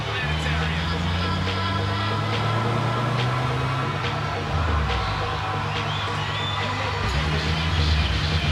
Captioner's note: tires screeching